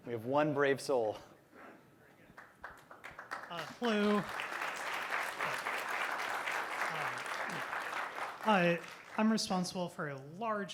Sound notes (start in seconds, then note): 2.2 applause; 4.9 applause